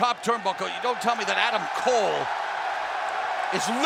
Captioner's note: fans cheering